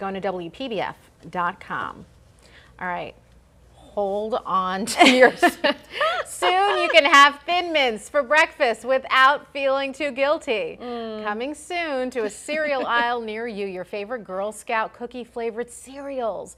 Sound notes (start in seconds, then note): 12.2 laughter